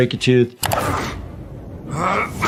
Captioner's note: mouse clicking; The Immortal grunting